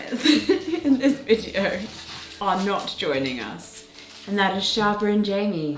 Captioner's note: laughs